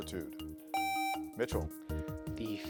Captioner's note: buzzer beeps